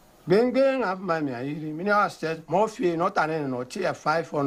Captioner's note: foreign Language